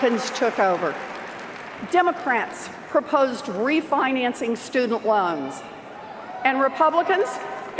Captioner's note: cheers and Applause